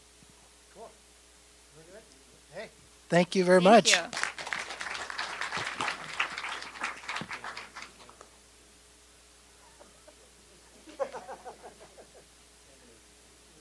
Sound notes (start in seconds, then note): 5.5 applause; 8.9 muffled laughing